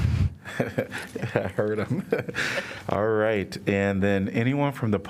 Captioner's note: laughter